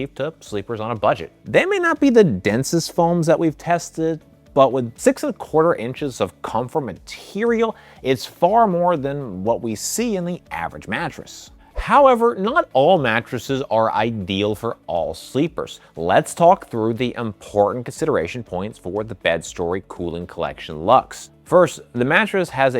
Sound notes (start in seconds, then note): 11.7 screen whooshing